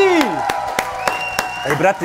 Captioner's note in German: Jubel